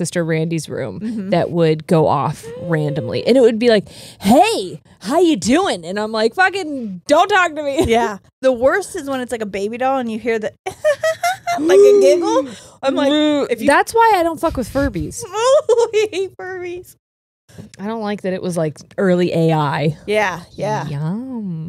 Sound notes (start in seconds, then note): 10.7 giggles; 12.3 gasps; 15.6 shudders